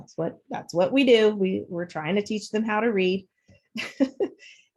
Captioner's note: chuckles